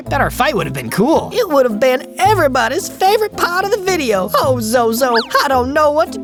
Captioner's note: sniffs